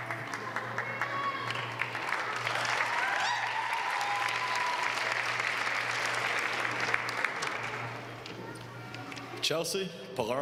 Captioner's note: applause